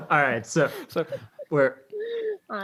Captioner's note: laughs